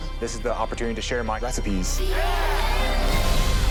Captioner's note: group cheers and applauds